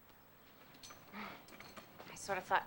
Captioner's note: chuckles